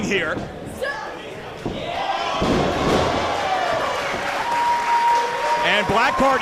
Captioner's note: applause